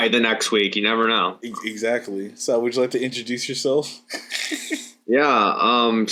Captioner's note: laughs